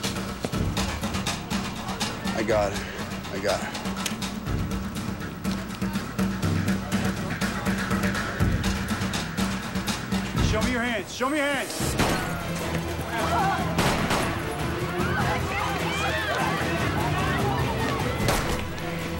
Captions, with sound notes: I got her. I got her. Hands! Let me see your hands. (gunshots, people screaming)